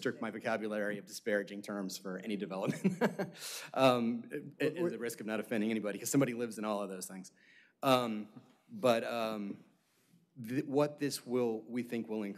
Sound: laughter

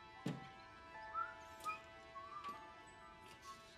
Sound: Tom whistling

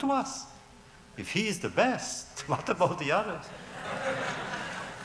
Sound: laughter; laughs

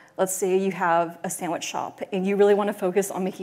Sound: none

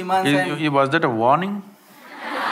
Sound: laughter

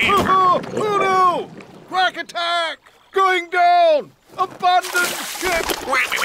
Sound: quacks; yells; quacks

